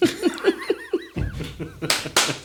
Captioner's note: laughing